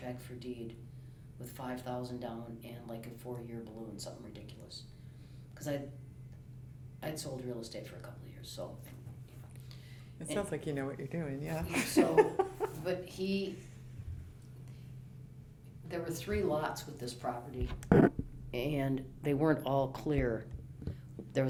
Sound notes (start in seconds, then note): 12.7 pat